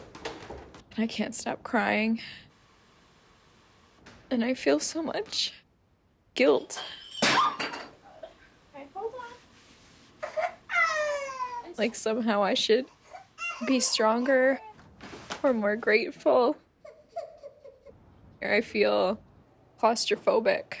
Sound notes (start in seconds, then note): 6.7 coffee cup smashes on the floor; 10.2 baby cries